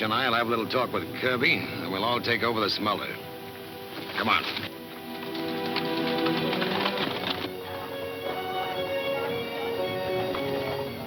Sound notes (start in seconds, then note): 3.5 hooves clunking; 7.2 adventurous western music